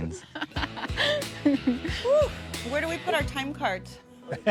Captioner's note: exhales; all laugh